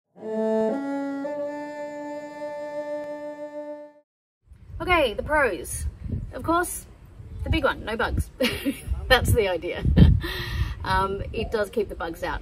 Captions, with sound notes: [three ascending cello notes, ending with a sightly clumsy vibrato] Okay, the pros. Of course, the big one, no bugs. That's the idea. [chuckles] Um, it does keep the bugs out.